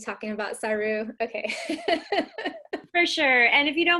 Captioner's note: laughs